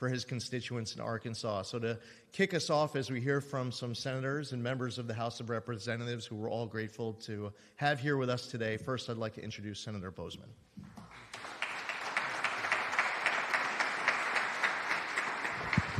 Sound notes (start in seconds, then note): 10.9 applause